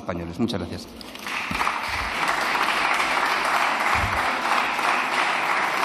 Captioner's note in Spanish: Aplausos